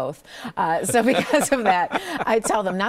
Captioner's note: both chuckle